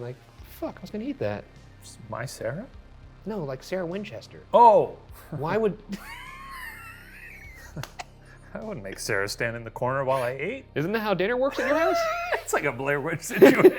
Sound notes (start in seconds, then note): 5.8 laughing; 5.9 chuckles; 11.5 laughing